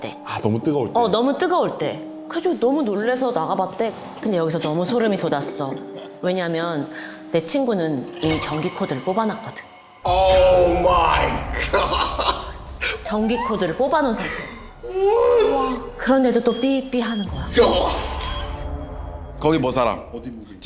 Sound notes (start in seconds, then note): 17.4 the mysterious beeping of the induction cooktop